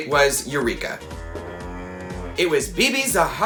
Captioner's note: moos